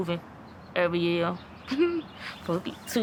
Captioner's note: laughter